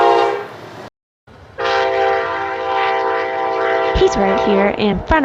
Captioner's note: horn